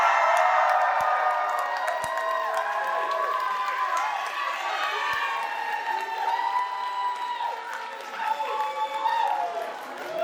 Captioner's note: applause